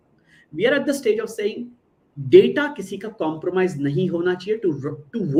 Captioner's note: non-english speech